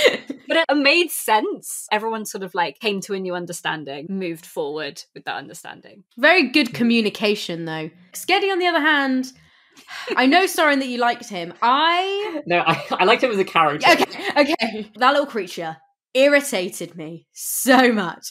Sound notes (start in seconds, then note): 9.0 sighs; 9.5 laughs; 13.7 laughing